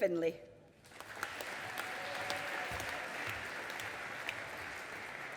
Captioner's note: audience applauding